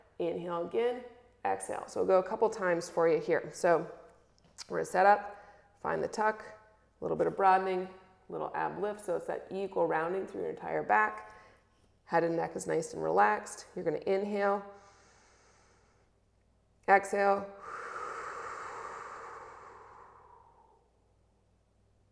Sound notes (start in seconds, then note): 17.5 exhales; 17.6 inhales